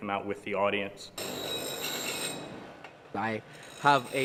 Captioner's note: metal grating